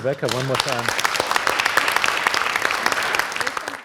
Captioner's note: applause